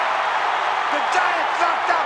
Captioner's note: audience cheering